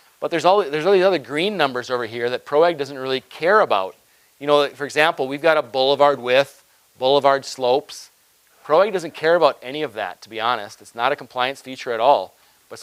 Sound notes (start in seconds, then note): none